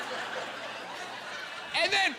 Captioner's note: laughing